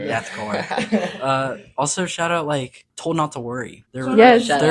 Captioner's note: laughing